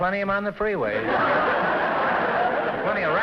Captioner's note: laughter